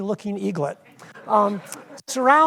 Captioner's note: audience laughs